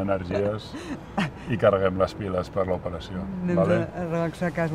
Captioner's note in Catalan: Risas